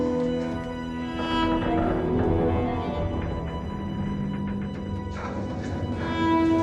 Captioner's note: pensive music; ship creaking